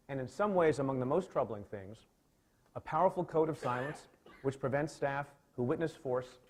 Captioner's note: aside: coughing